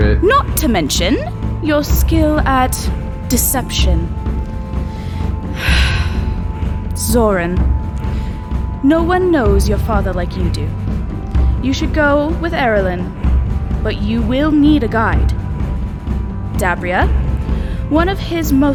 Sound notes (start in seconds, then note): 5.0 sigh before continuing